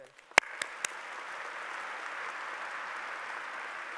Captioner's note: applause